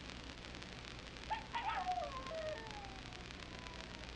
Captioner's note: coyote howling